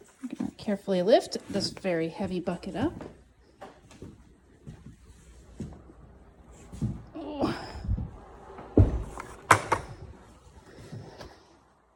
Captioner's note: grunts with exertion